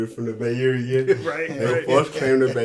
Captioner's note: chuckling in agreement